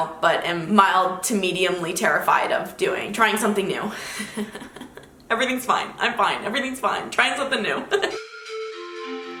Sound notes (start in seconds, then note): 4.1 laughing; 8.1 bright upbeat music